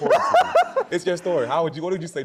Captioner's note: laughs